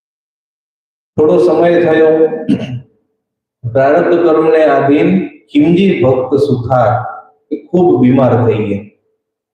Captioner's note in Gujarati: ગળું સાફ કરે છે